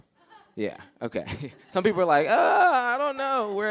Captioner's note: laughter